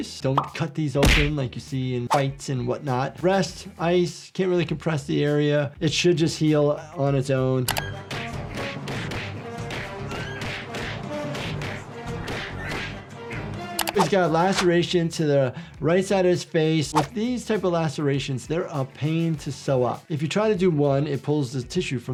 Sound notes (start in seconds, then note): 7.7 suspenseful music; 7.7 punches whack